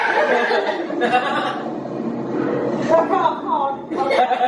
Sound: mum screaming; laughter

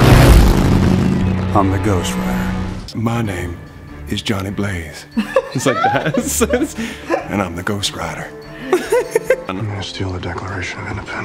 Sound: both laugh; laughs

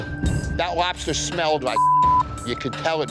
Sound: beeps

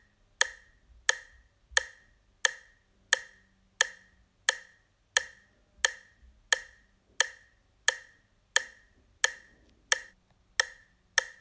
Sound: sound of clock ticking - faster again; sound of clock ticking - even faster

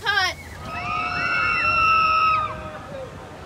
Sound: screams

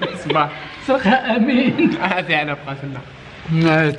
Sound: laughs

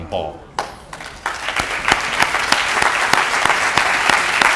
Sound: applause

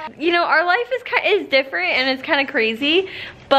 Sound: none

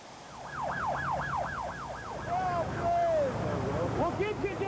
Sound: sirens; yelling

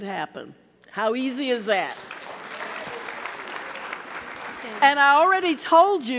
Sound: audience clapping

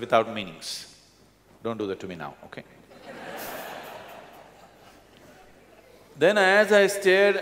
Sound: laughter

